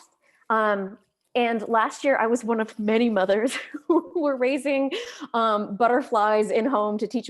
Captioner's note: chuckles